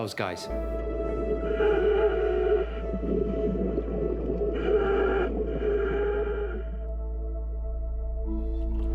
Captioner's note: respirator sounds